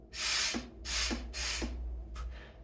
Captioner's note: air puffs